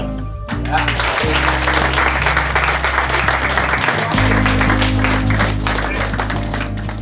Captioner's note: applause